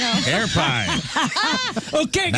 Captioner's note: laughing